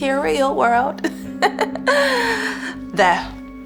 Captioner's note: laughs